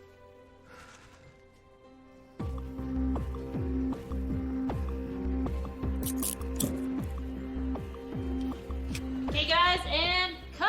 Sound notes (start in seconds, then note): 1.8 soft, tense music; 6.0 handcuffs locking